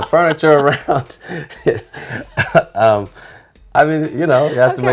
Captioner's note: both laughing